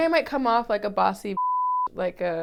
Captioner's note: beep